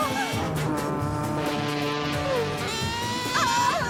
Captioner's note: horn; screams